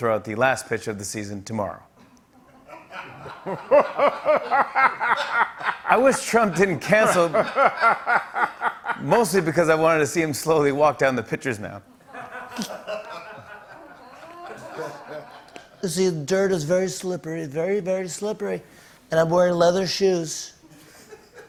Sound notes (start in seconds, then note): 15.6 As Trump